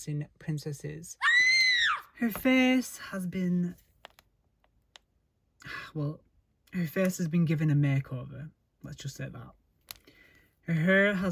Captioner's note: scream